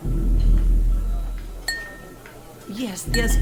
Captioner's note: glass tapping